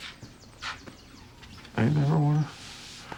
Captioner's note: voice breaking